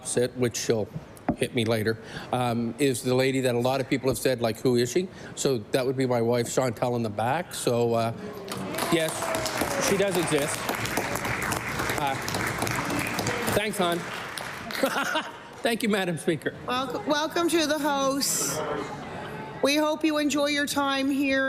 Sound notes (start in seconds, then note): 15.9 applause